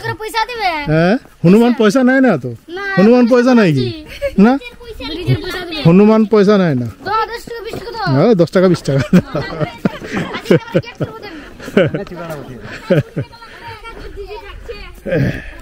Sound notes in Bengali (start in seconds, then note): 11.6 সশব্দ হাসি